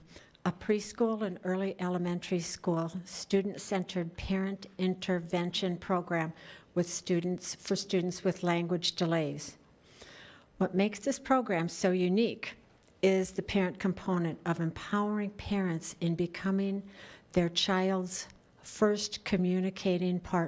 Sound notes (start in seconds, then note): none